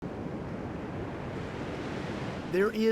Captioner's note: waves murmuring